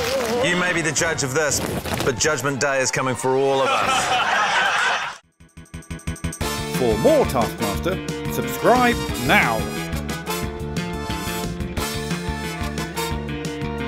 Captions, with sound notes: - You may be the judge of this, but Judgement Day is coming for all of us. (LAUGHTER)